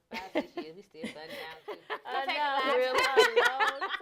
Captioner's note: laughter